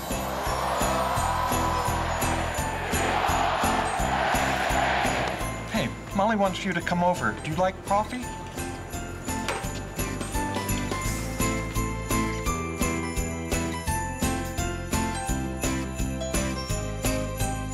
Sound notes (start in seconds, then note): 0.0 crowd cheers; 2.8 crowd chants